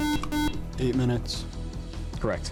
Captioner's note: buzzer